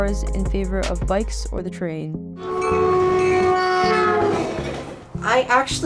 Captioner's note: train whistle